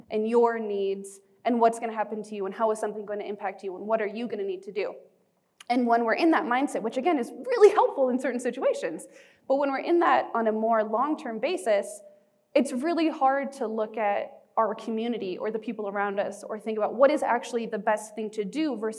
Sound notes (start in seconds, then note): none